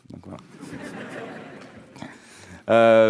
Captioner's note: audience laughing